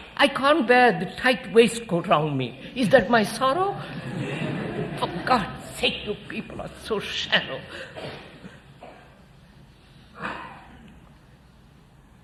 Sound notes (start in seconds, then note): 3.6 laughter